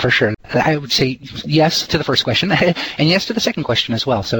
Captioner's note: heh heh